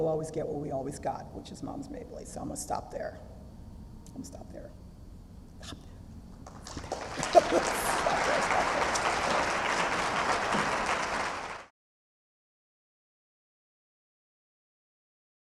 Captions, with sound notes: we'll always get what we always got... which is Moms Mabley, so I'm going to stop there. I'm going to stop there. Stop there, stop there... [LAUGH] [APPLAUSE]